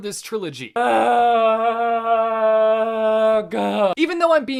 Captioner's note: moaning noises